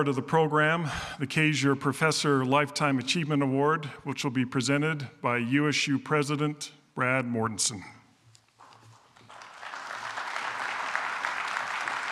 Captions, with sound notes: of the program, the Cazier professor Lifetime Achievement Award, which will be presented by USU President, Brad Mortensen. [APPLAUSE]